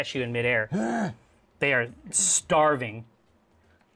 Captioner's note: groans in pain